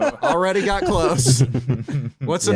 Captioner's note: chuckles; laughs